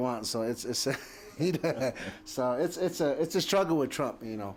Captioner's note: laughter